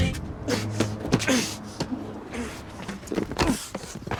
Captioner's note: Mark grunting